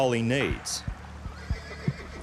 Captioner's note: horse neighing